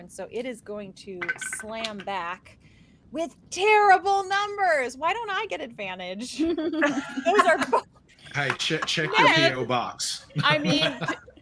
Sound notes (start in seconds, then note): 1.2 dice rattling; 6.4 group laughing